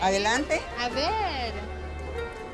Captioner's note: speaking Spanish